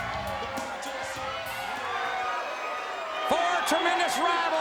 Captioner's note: crowd cheers